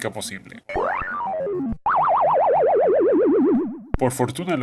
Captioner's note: sound of defeat